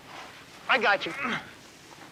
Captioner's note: grunting